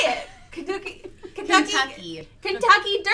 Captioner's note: stammering